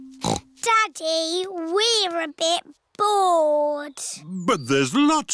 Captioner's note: snorts